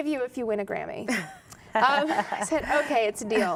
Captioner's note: laughter